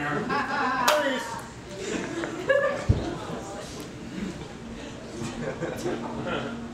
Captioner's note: claps hand